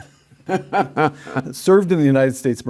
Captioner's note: Tom laughing